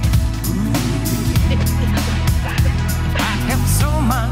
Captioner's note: laughs